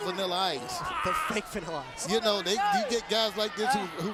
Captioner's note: laugh